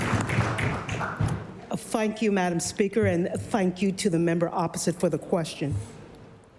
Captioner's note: applause